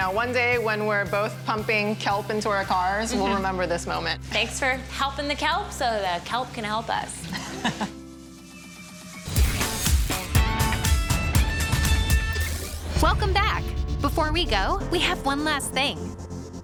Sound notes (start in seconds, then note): 8.8 laughing